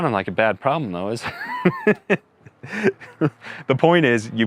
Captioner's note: chuckles